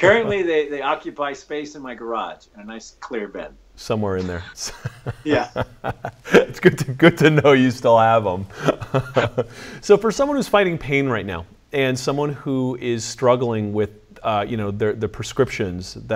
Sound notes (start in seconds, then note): 5.8 laughs; 8.5 both laugh